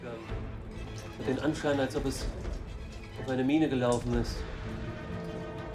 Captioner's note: speaking in foreign language